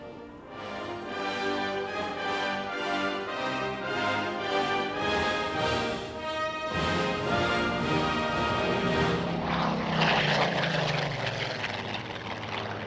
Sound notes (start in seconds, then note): 0.1 triumphant music; 8.9 plane zooming